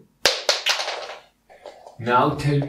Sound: groaning; piece clatters on floor

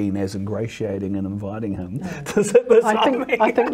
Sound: laughs

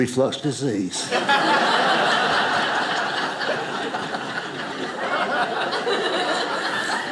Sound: audience laughing

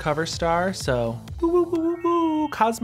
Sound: imitates siren

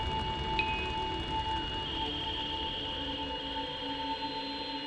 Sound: satelite beeping

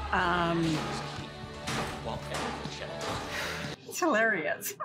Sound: blows crashing

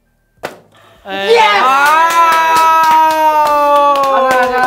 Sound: excited

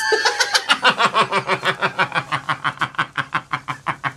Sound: deep Manly Gruff Laughter

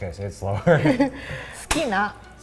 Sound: both laugh; both speak in foreign language

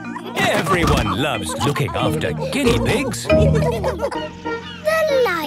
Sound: laughter

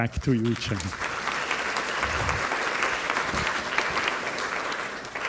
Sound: applause

